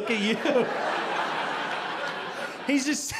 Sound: audience laughing

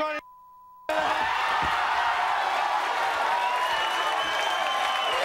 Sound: beep; audience cheering

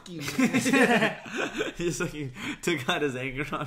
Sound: laughs

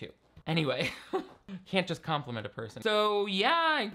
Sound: laughs

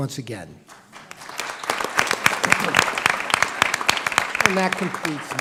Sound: applause

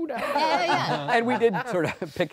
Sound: all laughing

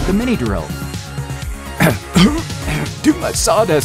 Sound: coughing

